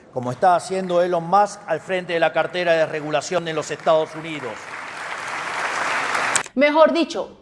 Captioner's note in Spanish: aplausos